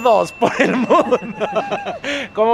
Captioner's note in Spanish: risas